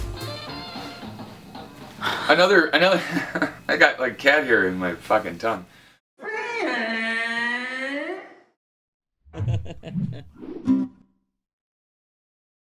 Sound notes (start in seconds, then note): 0.9 laughing; 5.9 Godzilla sound